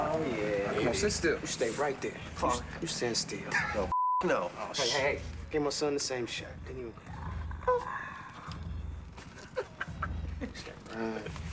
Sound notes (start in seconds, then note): 6.6 winces; 9.2 laughs